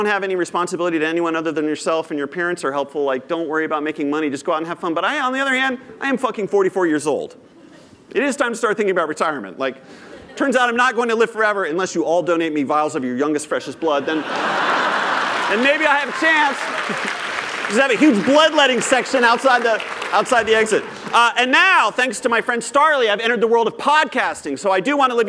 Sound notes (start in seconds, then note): 16.5 laughter; 18.1 applause